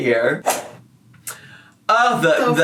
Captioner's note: whip cracks